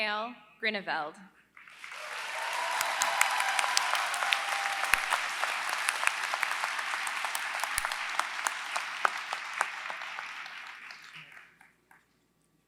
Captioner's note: applause